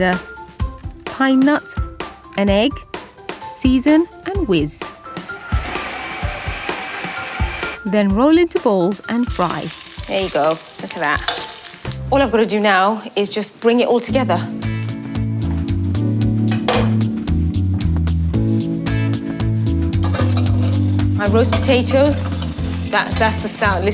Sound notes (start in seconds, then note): 5.1 mixer whirs; 5.1 upbeat music; 9.2 pan sizzles; 14.2 gentle upbeat music